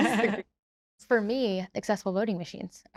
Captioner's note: laughter